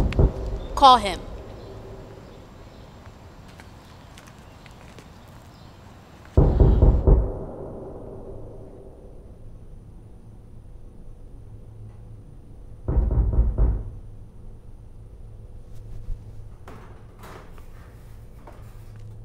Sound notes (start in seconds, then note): 6.4 ominous sound continues; 12.8 knocking